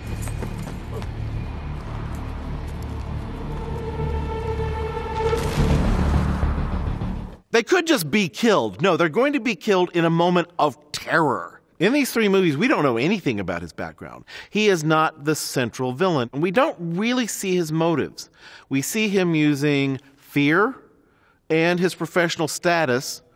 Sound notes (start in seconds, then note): 0.0 intense music builds; 5.2 ice cracks